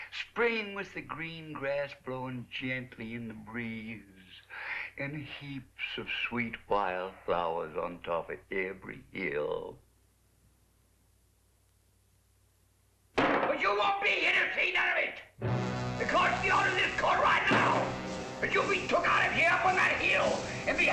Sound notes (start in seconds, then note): 13.2 bang